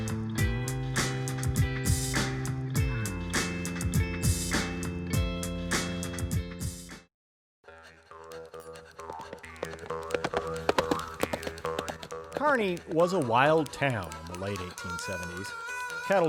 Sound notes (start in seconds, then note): 6.5 upbeat music; 9.5 twangy country music; 11.6 horse hooves galloping